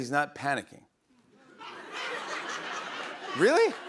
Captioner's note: laughter